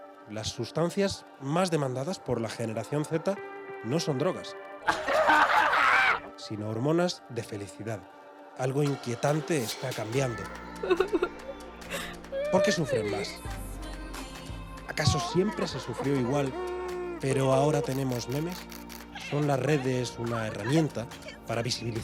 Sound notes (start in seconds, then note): 4.8 laughs; 11.9 cries